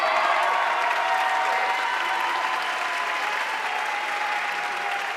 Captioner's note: audience cheering and applauding